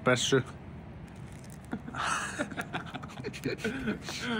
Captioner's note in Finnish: naurahduksia